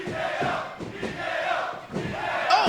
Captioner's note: fans chanting